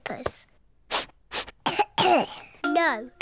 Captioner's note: sniffs and coughs